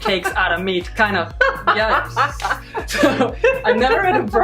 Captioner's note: laughing